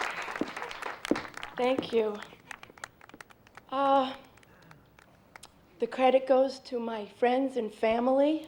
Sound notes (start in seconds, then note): 0.6 on microphone